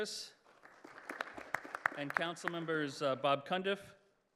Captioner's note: applause